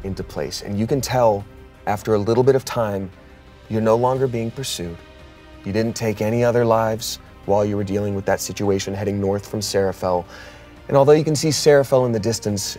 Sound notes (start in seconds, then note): none